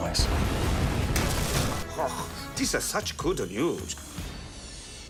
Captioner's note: explosion; crash